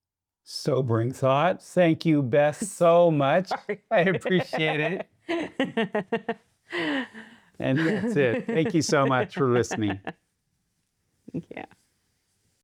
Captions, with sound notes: So bring thoughts. Thank you best so much. I appreciate it. (Laughing) And that's it. Thank you so much for listening. Thank you.